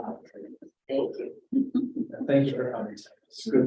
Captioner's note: laughter